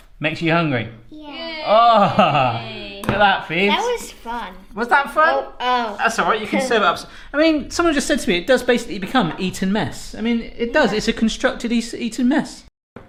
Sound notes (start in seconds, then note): 2.0 cheering